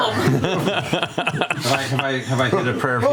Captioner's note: laughter